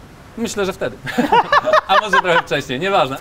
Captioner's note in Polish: śmiech